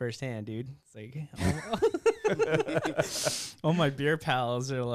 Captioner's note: laughter